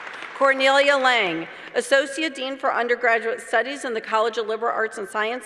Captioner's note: applause; applause